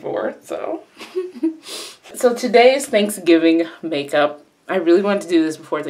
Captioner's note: laughs to self